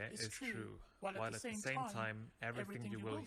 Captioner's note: two voices speaking the same words at slightly different speeds